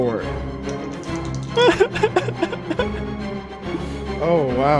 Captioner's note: giggles